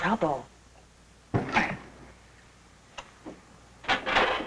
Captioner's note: grunting